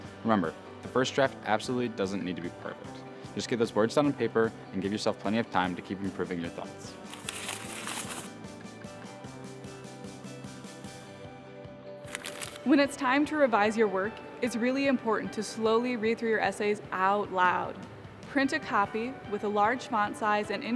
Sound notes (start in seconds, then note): 7.1 paper rattling; 8.7 light music